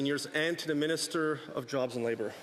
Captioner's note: speaking French